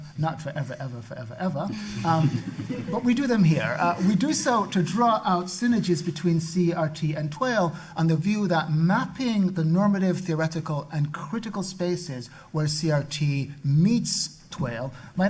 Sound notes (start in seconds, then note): 1.7 audience laughing